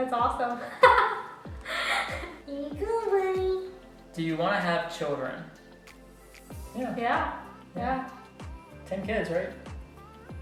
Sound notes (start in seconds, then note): 0.6 laugh; 2.8 high-pitched voice